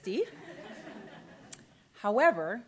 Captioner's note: audience laughter